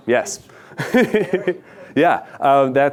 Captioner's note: laughs